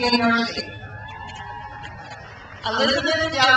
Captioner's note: crowd cheers